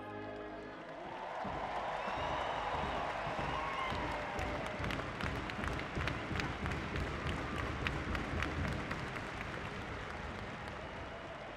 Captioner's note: cheering and Applause